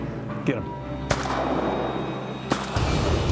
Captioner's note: gun shots